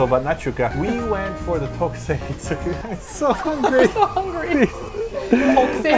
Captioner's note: both: laughing